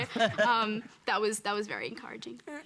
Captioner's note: laughs